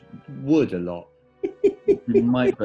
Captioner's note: giggling